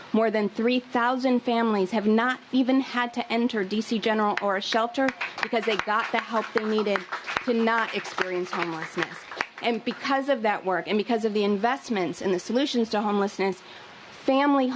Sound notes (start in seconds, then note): 9.1 applause